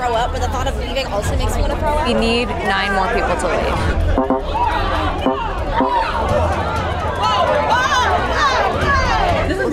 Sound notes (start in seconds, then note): 4.0 electronic tones beeping; 5.3 participants chattering